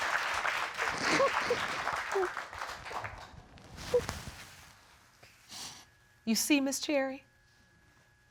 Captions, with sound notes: [cries] You see, Miss Cherry?